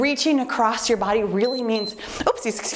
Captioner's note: timer beeps